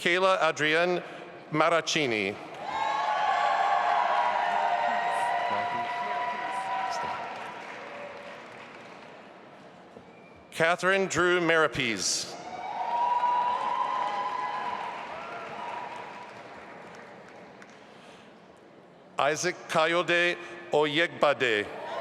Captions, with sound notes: Mikayla Adrienne Marraccini. (audience applauding and cheering) Katherine Drew Marapese. (audience applauding) Isaac Kayode Oyegbade.